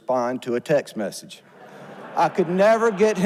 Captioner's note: audience laughs